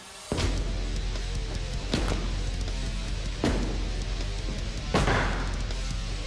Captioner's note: blade impact sounds